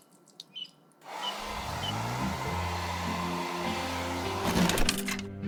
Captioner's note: hairdryer whooshing